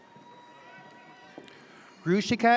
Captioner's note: audience cheers